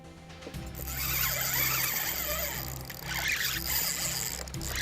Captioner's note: line reeling